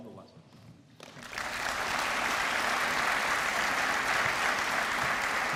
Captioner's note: applause